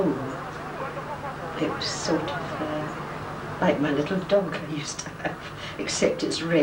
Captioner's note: laughing